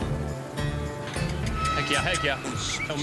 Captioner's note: mooing; helicopter whirring